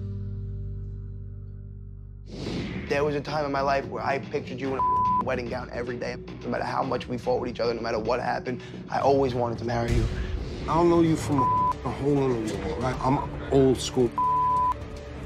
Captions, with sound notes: (air whooshing) - There was a time in my life where I pictured you in (beep) wedding gown every day, no matter how much we fought with each other, no matter what happened, I always wanted to marry you. - I don't know you from (beep) hole in a wall, I'm old school (beep).